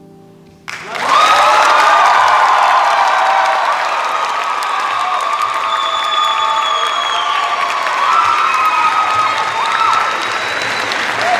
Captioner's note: cheers and applause